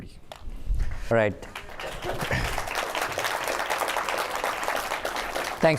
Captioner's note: applause